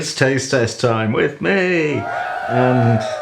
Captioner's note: cheering